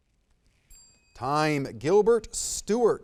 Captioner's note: bell ringing